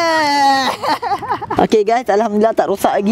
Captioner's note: laughing